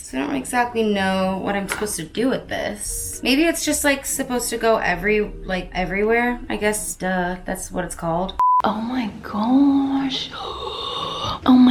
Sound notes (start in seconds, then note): 8.4 beep